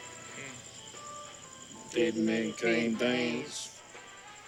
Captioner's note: both With Southern Accent